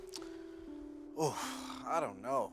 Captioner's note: sighs